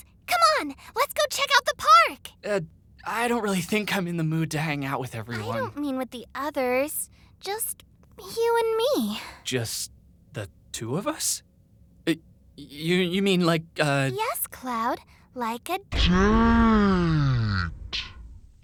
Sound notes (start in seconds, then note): 11.9 stuttering